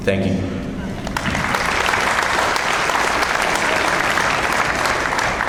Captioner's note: audience applauds